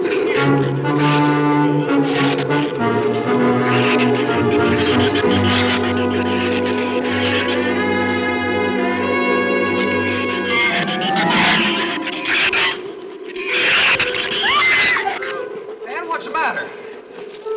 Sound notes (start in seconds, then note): 10.4 shrews chatter; 14.2 Ann screams